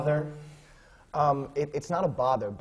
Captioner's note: none